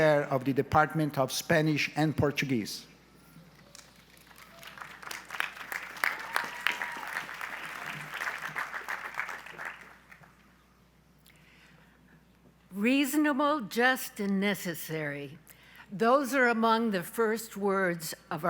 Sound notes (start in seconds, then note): 3.7 audience applauds